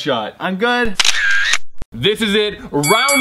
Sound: camera snap; bell dinging

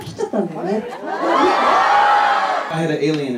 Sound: bunch of girls screaming????

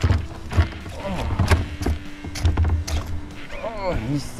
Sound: line flowing from reel

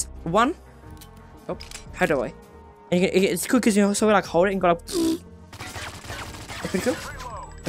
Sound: realistic Gun Noise

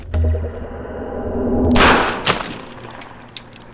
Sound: bam

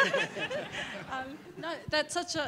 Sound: laughing

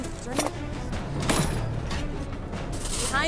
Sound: silverware clatters

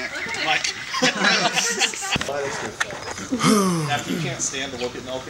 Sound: sighs

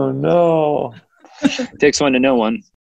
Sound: laughing

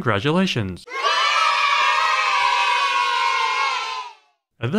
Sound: kids cheering

